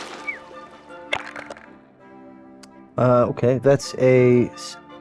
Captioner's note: dice rolling